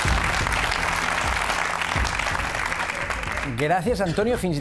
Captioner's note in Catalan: aplaudiments